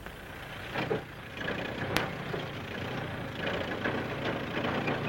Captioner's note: tractor rumbling